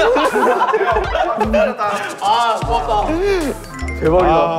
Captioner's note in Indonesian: Tertawa, pantas saja itu tampak aneh